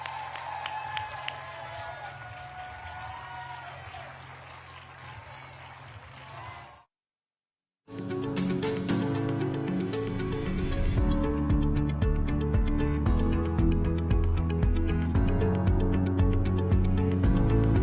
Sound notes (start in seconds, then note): 0.1 applause; 6.7 applause